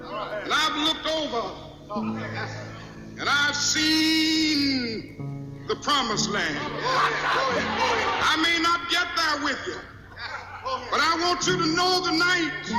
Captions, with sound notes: and I've looked over, and I've seen the Promised Land. (group cheers) I mean, I'll get there with ya. But I want you to know tonight